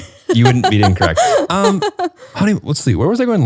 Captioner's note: laughs